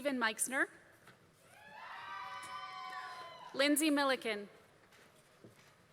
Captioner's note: applause